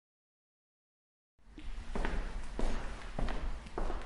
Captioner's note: footsteps thudding